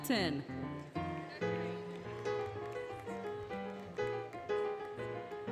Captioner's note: applause, Cheering, Music